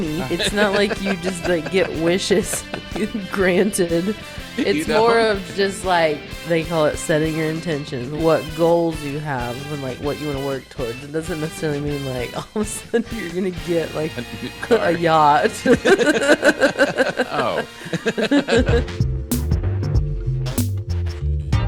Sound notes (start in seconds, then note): 16.0 both laughing; 18.9 smooth music